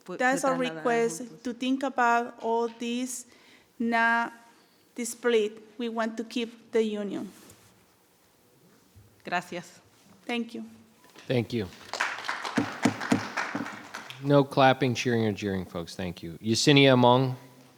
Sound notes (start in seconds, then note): 0.0 speaking in foreign language; 9.3 speaking in foreign language; 11.2 audience applauding; 12.6 gavel thudding